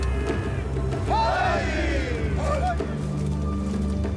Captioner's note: chanting in foreign language